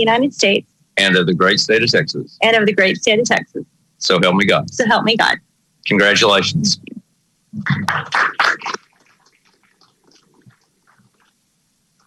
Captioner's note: applause